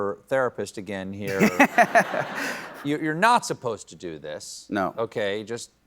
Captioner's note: laughter